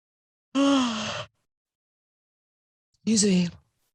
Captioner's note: yawning